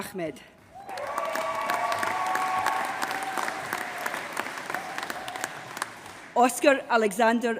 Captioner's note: applause